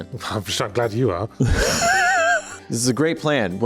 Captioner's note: laughing